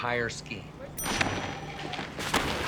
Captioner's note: bell rings